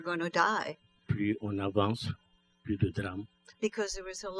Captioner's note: speaking french